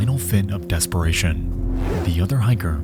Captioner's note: zipper buzzes